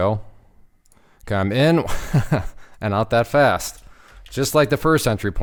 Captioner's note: laughs